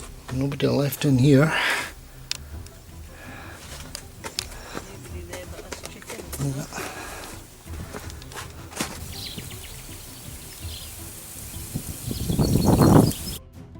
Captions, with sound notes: ...nobody left in here. [birds chirping]